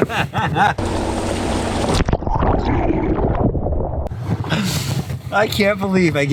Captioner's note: water splashing